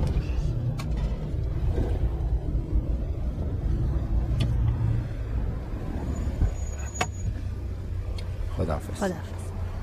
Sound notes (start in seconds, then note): 6.4 engine stops